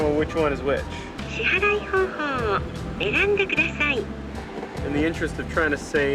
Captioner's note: in Japanese